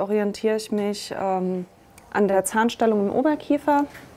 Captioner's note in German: none